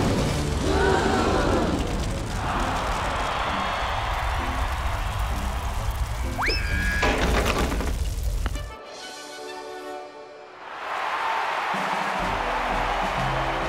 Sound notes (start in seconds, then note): 0.6 crowd gasps; 2.2 cheering; 10.6 cheering